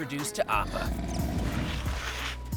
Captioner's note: Appa rumbling